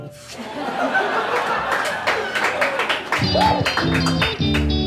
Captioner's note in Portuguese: risadas e aplausos